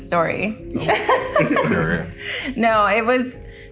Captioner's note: Jordyn laughs